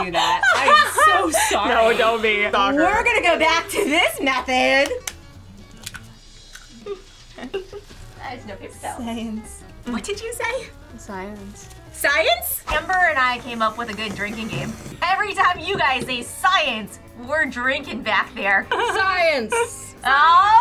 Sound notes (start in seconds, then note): 5.6 eggs cracking